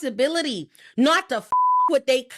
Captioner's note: beep